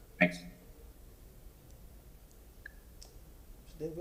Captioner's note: ~audio cuts out~